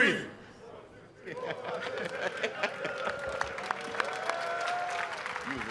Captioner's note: all laughing and applauding